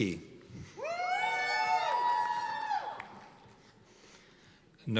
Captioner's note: cheers and applause